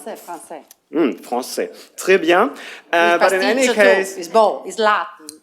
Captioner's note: french; french; non-english speech